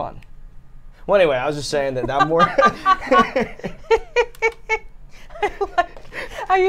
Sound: laughs

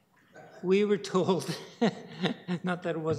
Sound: laughter

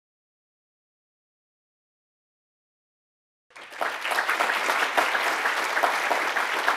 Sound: audience applauds

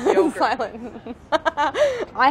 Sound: laughs

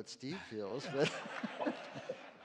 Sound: laughter

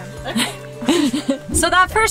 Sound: transition whoosh

